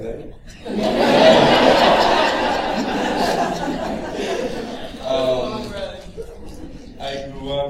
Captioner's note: laughter